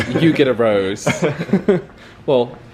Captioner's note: chuckles